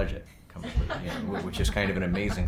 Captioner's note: group laughing